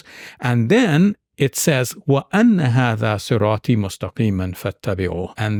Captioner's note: speaking in Arabic